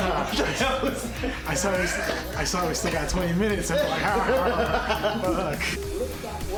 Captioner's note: panic gibberish